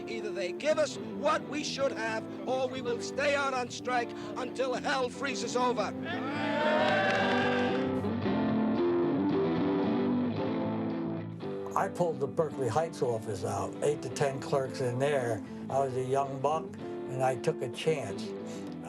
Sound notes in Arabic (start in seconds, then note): 6.0 المتظاهرون يهتفون; 7.1 موسيقى جيتار مبهجة